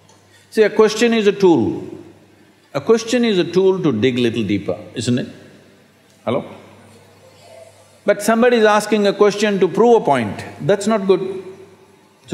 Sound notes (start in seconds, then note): none